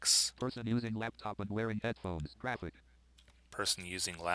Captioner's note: synthesized speech